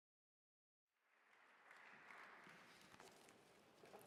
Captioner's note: applause